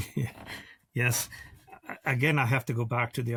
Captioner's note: laughs